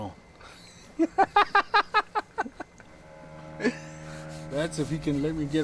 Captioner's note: laughs